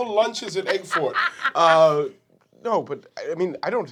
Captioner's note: laughing